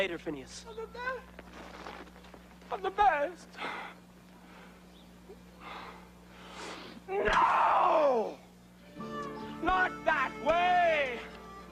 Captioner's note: cries, sighs